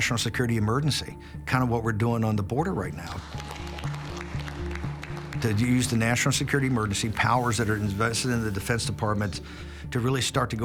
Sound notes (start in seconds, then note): 3.2 people applauding